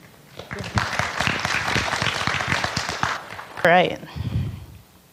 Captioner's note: audience clapping